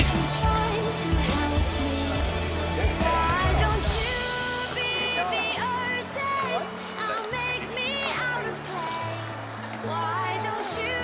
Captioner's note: applause